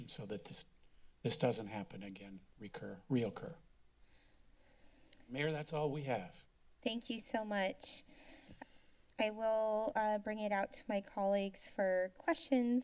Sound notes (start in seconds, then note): 3.6 rustling sound; 8.1 inhales